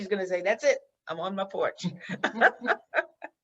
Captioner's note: laughs